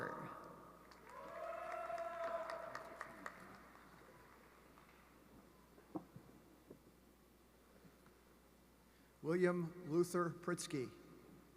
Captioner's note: applause